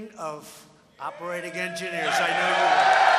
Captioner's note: applause